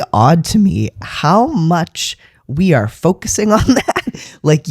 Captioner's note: laugh